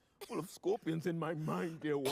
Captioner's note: coughs